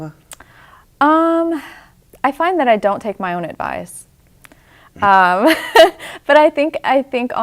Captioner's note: laughs